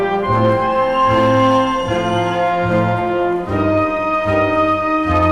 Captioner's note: triumphant music continues; crowd cheering